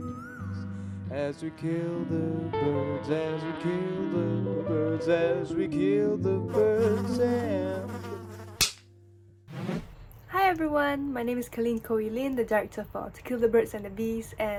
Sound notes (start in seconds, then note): 6.5 bee buzzing; 8.6 smacking sound